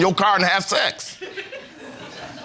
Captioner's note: audience chuckles